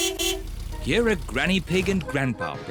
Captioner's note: horn beeps